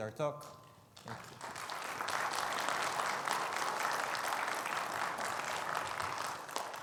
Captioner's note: audience clapping